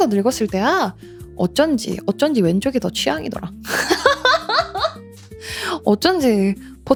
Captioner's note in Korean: 웃음